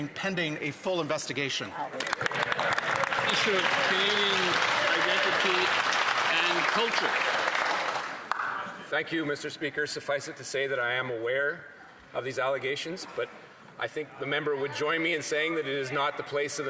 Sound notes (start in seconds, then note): 7.7 some Applause